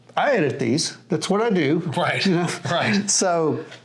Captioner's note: laughs